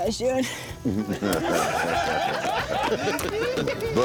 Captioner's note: laughter